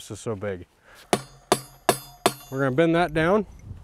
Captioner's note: hammer clanging